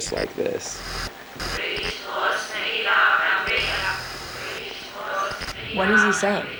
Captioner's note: group speaks in foreign language